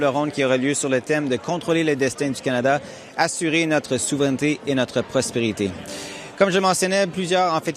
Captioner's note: speaking french